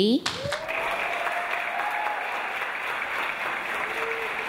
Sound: audience applause

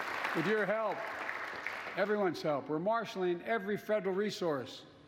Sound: applause

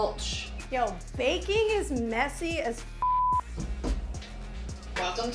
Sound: beep

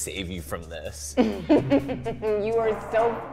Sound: laughter

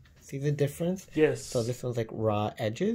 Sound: man voice

